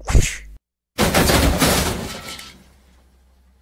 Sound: crash!; smack!

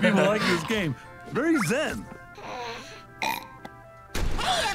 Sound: bunny burps

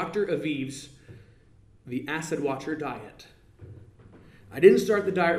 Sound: none

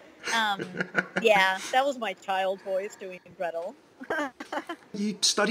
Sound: laughs

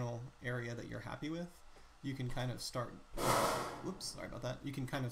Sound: bang

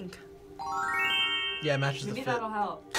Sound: magical chimes

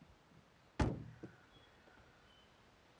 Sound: car boot slamming; birds chirping

